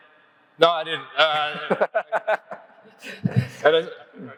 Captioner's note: laughs